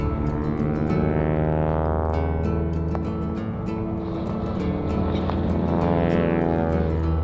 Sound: aircraft engine roaring continuously

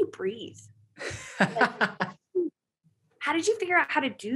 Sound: laughing

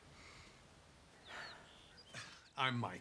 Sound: sighing

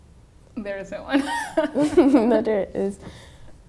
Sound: laughing

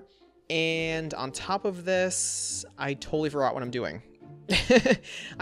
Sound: laughs

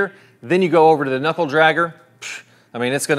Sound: scoffs

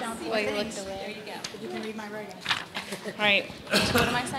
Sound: laughter

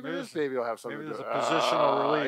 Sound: growls

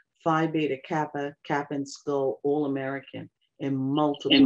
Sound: audio glitch

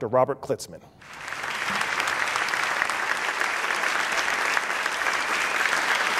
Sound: applause

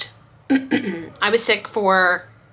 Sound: clears throat

